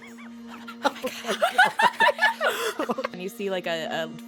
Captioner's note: laughter